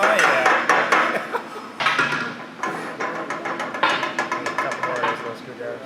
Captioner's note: laughs